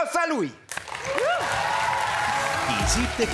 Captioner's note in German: Applaus